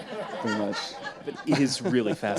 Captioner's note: audience laughs